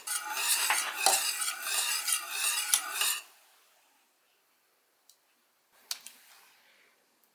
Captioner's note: whisking